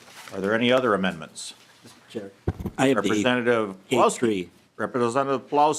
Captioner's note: gavel